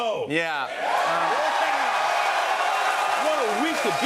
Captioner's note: cheers and applause